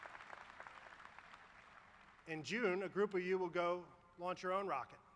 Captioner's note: applause